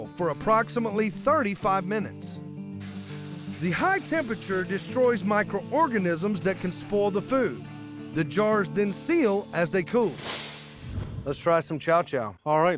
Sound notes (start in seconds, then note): none